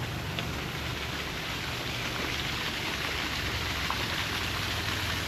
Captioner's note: water sounds